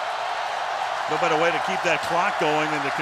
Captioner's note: cheering